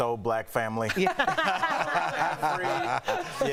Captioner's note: laughter